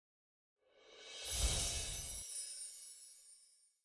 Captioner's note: bells chiming